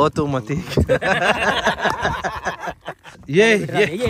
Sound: laughing

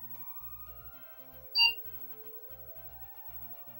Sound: computer beep again

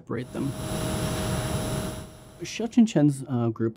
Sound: engine whirring

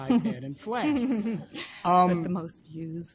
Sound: spokeswoman 2 laughs

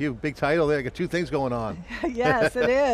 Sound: chuckling

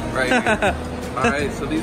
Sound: laughs

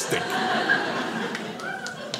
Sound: audience laughing

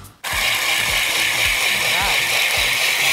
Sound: whirring

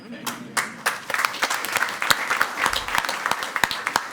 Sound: crowd clapping

